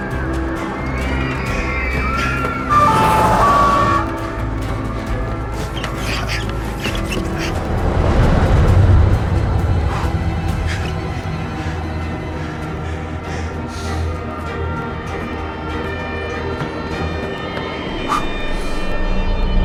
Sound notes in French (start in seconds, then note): 0.2 cris au loin; 2.6 sirènes; 9.8 halète; 15.0 sirènes à l'approche